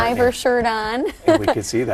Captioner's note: laughs